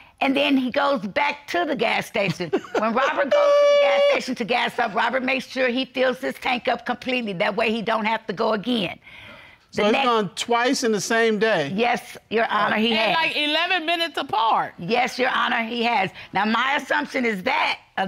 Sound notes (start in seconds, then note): 2.4 laughs